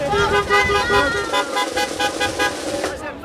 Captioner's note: laughs; car horn honking; background chatter